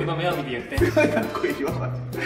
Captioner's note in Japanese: 苦笑